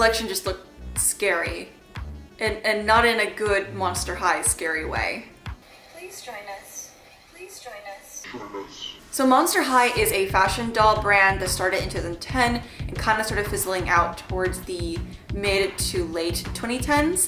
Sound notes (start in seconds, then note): 8.0 distorted voice